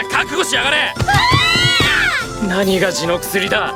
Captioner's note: shriek in Unison